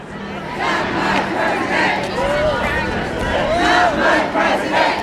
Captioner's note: crowd